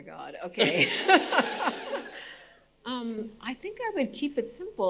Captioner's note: audience laughing